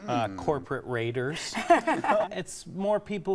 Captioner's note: laughing